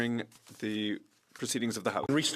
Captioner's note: speaking French